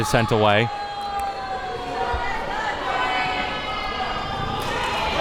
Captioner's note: audience yelling